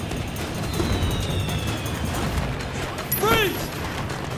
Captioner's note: fire works whistle; dramatic music